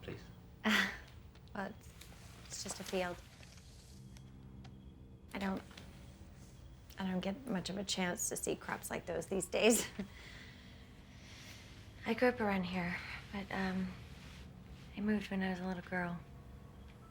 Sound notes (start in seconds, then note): none